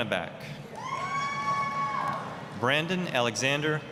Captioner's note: applause, cheering